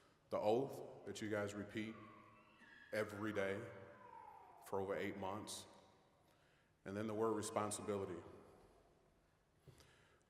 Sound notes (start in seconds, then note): none